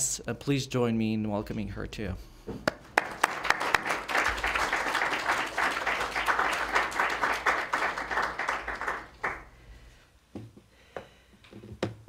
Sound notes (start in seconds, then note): 2.7 applause